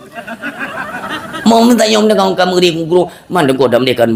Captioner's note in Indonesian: tertawa